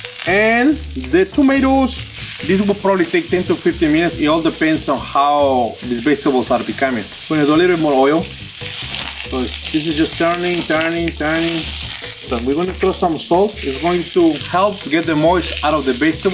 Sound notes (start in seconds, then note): 8.4 vegetables sizzling